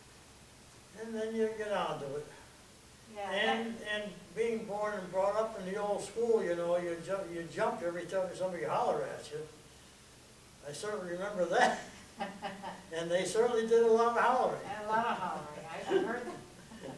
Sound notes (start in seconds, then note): 13.5 laughter